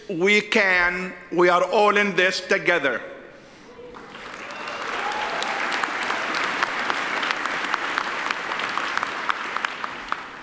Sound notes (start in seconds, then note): 3.9 audience applauds